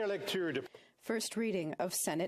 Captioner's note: speaking French